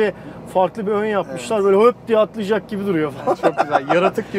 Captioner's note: laughings